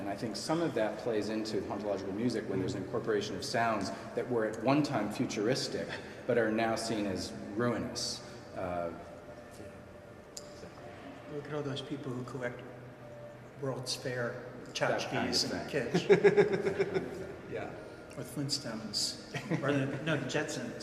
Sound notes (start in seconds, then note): 15.9 laughs